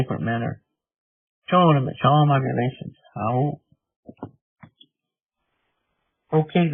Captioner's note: speaking in Native language